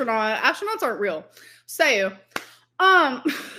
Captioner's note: laughs